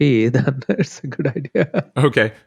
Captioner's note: laughs